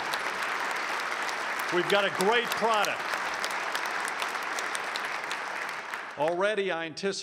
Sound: applause

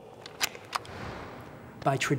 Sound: crossbow clunking

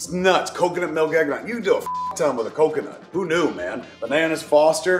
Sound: beep

